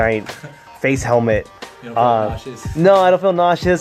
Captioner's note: voiceover